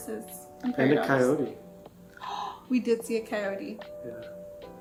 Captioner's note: gasps